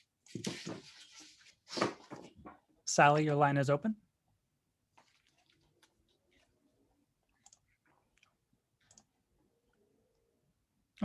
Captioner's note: silence